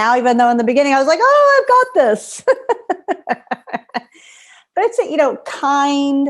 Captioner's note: laughter